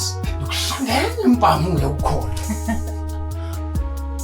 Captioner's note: laughing